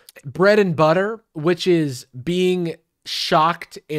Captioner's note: none